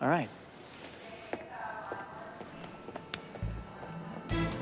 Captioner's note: footstep